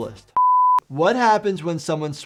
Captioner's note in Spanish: pitido en pantalla